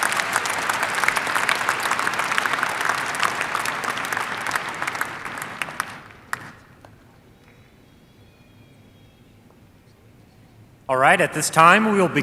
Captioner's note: applause